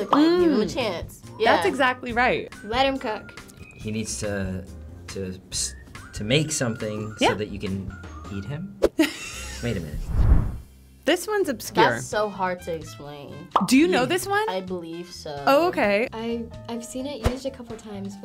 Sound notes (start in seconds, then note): 9.0 laughs; 13.5 bubble pops